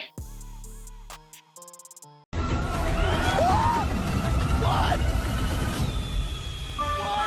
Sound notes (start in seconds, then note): 0.2 outro music playing; 2.3 crowd cheering